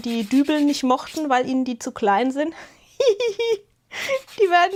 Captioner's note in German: gelächter